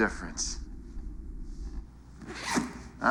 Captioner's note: zips up coat